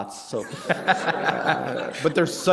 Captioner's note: laughter